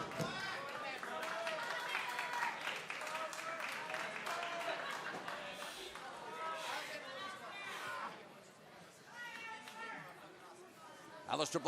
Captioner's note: crowd chatter